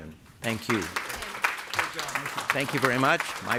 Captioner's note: applause